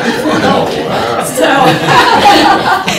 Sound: laughter

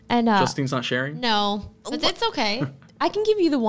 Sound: chuckles

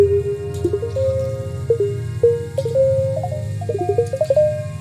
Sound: layered with reverberated high-pitched sound; somehow like birds squeaking; layered with reverberated high-pitched sound

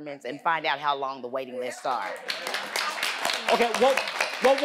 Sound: audience applauding

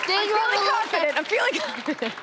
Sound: laughing

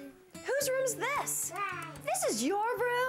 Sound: whispering

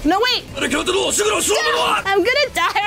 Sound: intense anime voice in Japanese

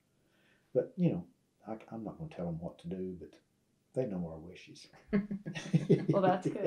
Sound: laughter

